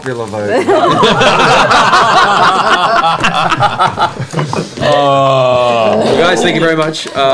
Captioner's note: laughter